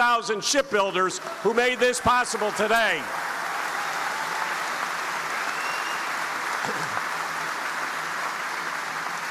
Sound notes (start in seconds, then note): 3.4 audience applauding